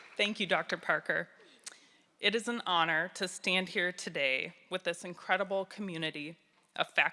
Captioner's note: applause